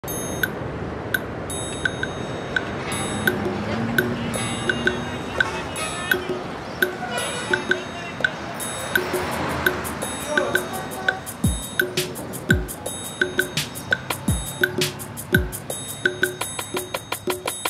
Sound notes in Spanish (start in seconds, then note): 2.8 Música funk con percusión suave; 4.9 Ruido de ciudad; 8.9 Bocinas